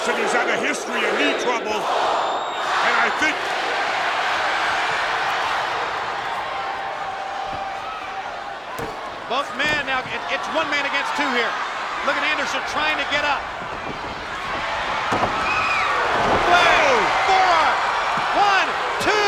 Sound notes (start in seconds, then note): 5.6 blows thudding; 14.0 body thudding; 14.0 footsteps plodding